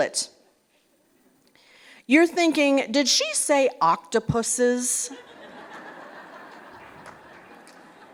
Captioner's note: laughter